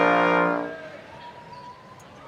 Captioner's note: audience cheering